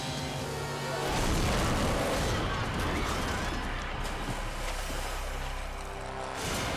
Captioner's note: water splashing; boat crashing